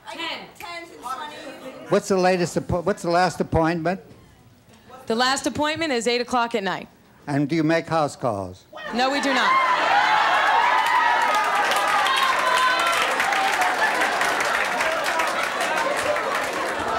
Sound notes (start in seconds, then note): 9.9 audience laughing